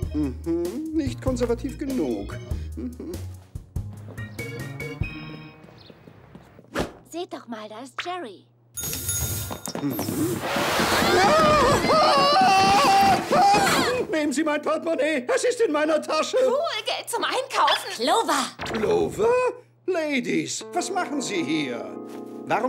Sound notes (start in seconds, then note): 8.8 ding; 11.0 scream